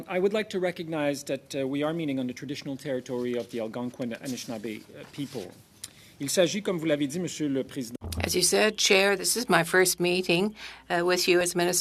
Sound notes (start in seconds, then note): 3.6 speaking French